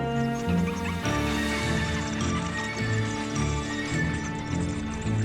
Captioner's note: bats chattering